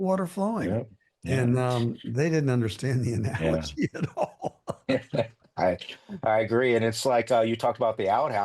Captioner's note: laughing